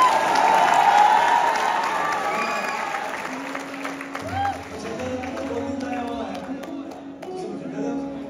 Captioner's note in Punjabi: ਤਾੜੀਆਂ